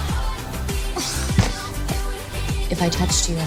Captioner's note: groaning